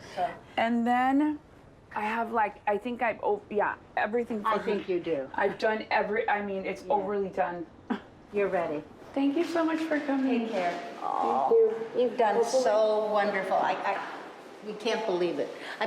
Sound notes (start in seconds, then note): 7.8 chuckles